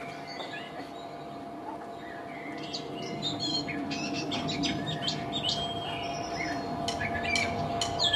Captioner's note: birds tweeting in the distance